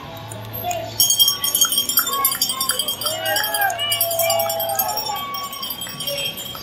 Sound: bell ringing and crowd cheering

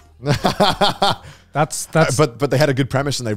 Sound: laughing

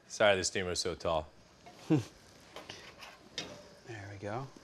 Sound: chuckles

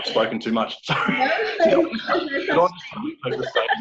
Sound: laughing

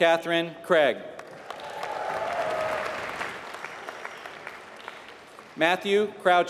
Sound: applause

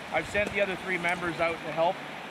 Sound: voiceover

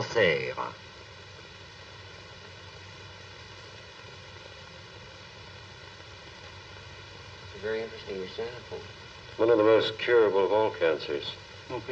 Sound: parlant dans une langue étrangère

